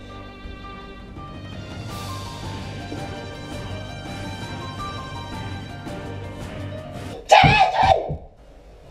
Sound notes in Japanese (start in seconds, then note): 7.2 奇声